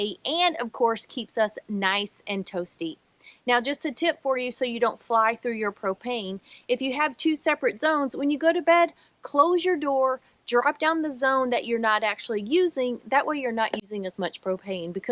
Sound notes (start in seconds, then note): none